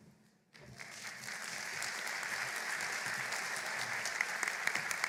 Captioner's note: applause